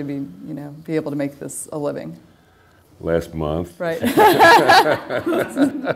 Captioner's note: laughter